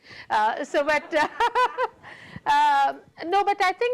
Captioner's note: laughing